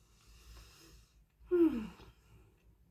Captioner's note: contented sigh